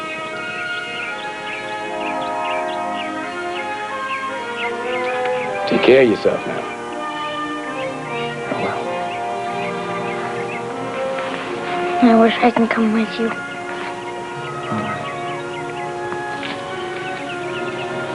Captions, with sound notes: [birds chirping] Take care of yourself, now. --(whispers) I will. I wish I can come with you.